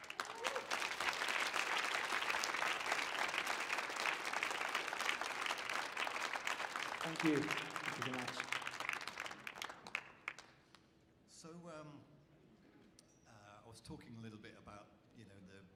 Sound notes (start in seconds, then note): 0.3 audience cheering and clapping; 8.6 speaks in foreign language